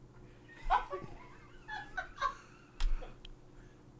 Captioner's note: crew laughs